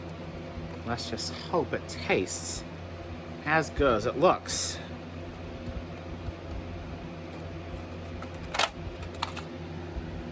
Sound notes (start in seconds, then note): 1.1 normal voice; 4.7 lid opens